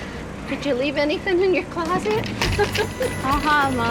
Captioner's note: laughs